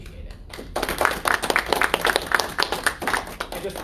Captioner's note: applause